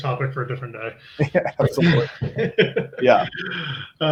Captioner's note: laughs